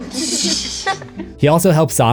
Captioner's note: laugher